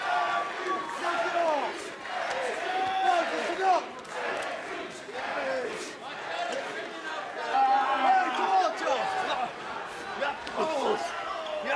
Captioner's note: fans chanting